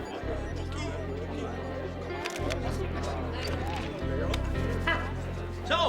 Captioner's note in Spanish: multitud parloteando; cámaras haciendo clic